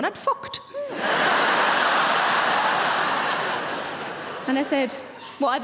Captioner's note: audience laughing